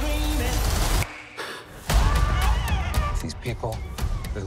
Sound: exhales deeply

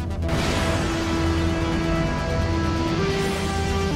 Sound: portal buzzing

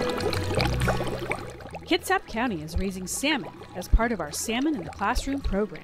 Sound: sound of bubbles and music

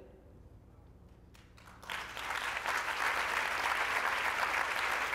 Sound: applause

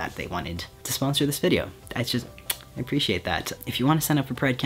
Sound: smooches

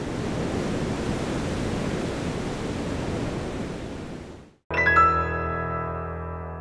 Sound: surf roaring

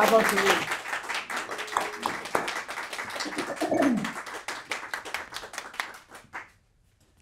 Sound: applause

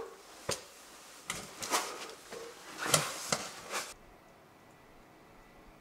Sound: crawling sounds

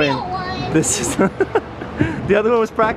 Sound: laughing

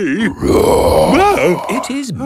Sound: loud roar

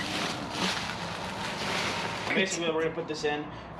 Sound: plastic rustling

